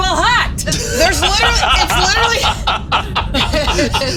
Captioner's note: all laughing